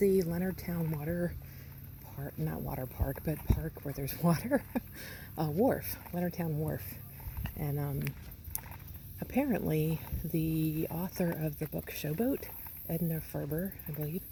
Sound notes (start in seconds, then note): 4.2 chuckles